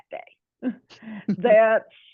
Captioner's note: chuckling